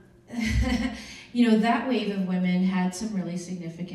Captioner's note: chuckles